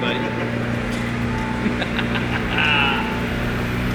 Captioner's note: laughing